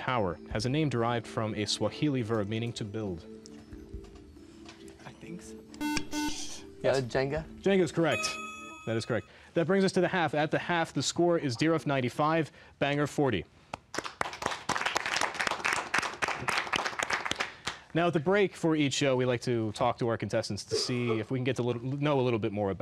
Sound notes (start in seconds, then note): 5.8 buzzer; 13.7 applause